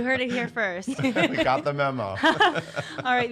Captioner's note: laughs